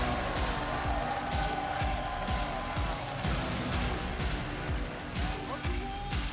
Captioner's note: audience cheering; upbeat music